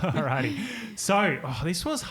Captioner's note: all giggling